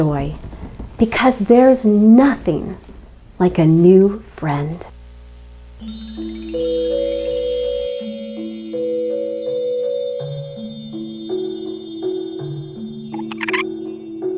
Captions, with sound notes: Because there's nothing like a new friend. (pleasant music) (chirping)